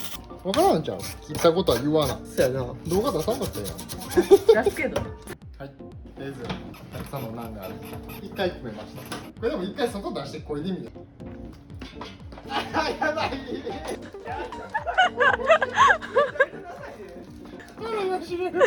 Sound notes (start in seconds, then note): 12.5 we can't stop laughing